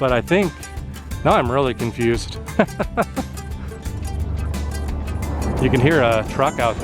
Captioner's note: laughter